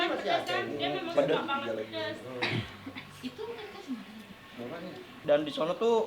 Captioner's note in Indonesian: berdehem